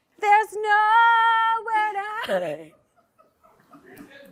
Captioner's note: laughs